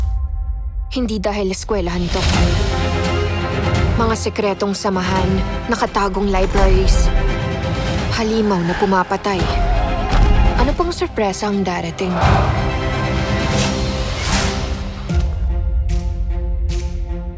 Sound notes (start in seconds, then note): 2.3 dramatic music plays; 8.1 growls